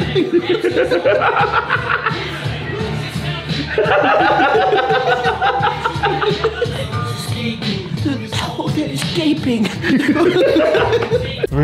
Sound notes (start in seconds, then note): 0.0 cackles; 3.7 continues cackling